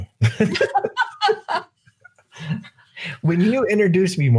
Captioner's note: laughing